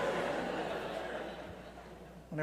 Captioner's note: laughter